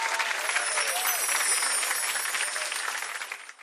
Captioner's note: gentle chimes